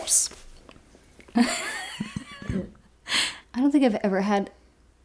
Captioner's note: laughs